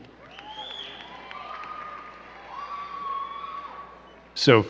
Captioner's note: crowd cheering and clapping